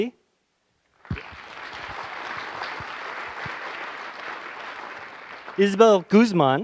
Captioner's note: applause